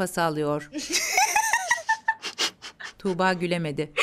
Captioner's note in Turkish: Gülme sesleri